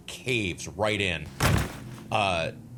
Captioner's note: thud